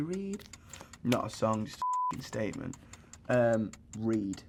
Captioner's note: singing; beep; clock ticking